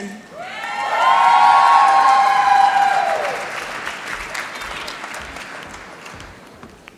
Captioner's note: applause